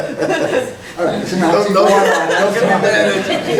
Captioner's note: laughing